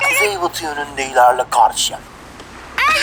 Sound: Serdar Gps sound

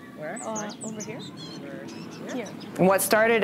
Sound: birds chirping

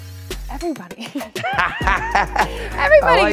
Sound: both laugh

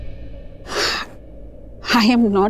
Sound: Poonam sighs

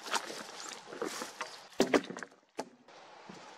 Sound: log falling on other logs; effort grunt, footsteps

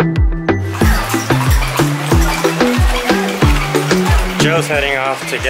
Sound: horses galloping

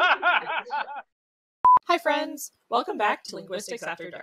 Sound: laughs; in duplicate voiceover

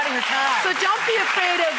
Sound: audience members cheering and clapping

